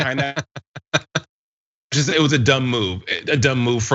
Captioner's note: laugh